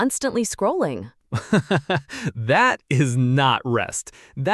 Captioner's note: soft laugh